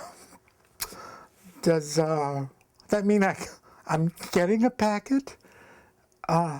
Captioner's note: chokes up